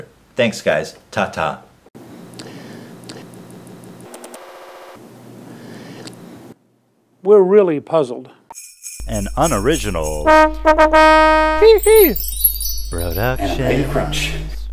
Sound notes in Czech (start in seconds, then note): 8.6 Zvony; 9.0 fanfára